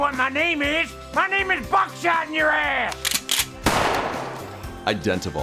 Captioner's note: gunfire